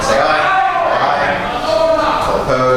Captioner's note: A chorus of ayes